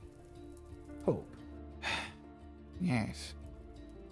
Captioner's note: sigh